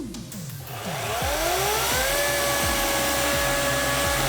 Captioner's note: chainsaw whirring